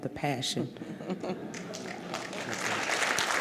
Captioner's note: laughs; applauds